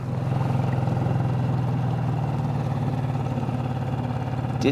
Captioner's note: motor burbling